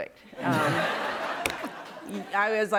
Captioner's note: laughter